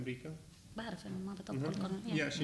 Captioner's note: speaking arabic